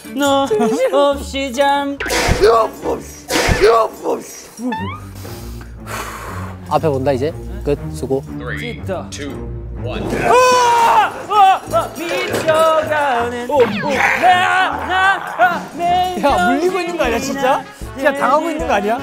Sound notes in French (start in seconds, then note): 4.5 Profond soupir